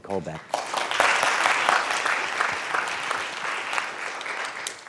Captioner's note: audience applauds